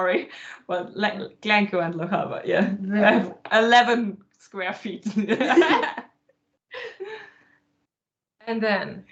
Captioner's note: laughter